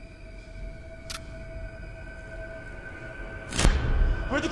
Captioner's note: tense music; transition clicks; tense suspenseful music